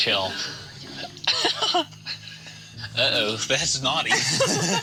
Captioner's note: laughs